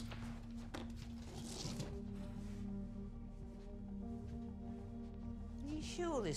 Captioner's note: none